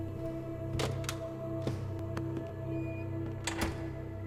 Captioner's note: theater door closing